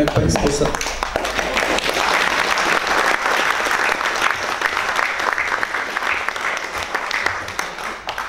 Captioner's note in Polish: oklaski